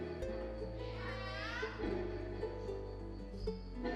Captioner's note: girl cheers